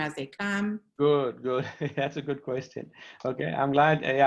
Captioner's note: laughter